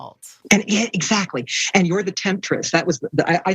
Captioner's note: none